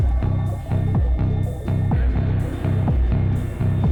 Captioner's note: electronic sound